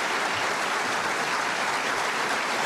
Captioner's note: applause